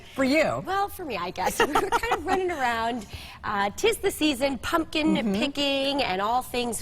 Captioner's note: laughter